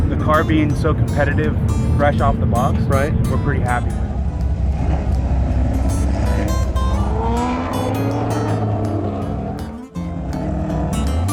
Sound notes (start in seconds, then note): 5.5 engines revving; 5.5 guitar music